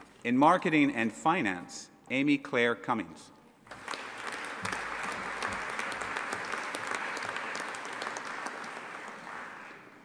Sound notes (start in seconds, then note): 3.6 audience applauding